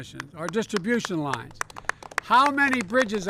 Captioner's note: applause